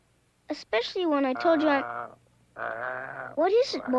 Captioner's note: Arrow growls